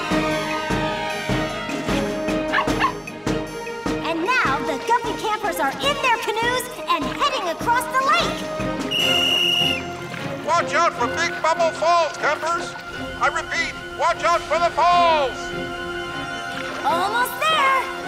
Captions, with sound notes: And now the guppy campers are in their canoes and heading across the lake! [whistle blowing] Watch out for Big Bubble Falls, campers! I repeat, watch out for the falls! Almost there!